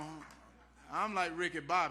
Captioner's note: cheering and applause